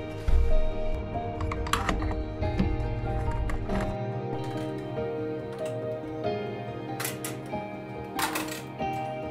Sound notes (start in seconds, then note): 2.4 tools clattering